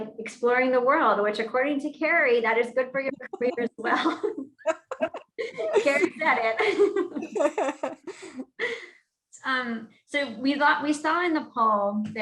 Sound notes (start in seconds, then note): 6.9 laughing